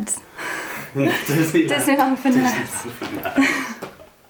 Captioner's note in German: lacht